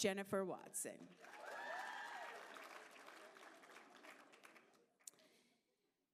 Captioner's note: applause